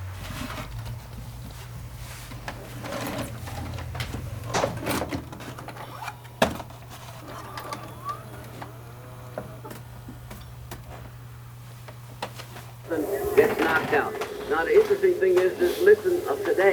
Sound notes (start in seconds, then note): 2.9 VHS clunking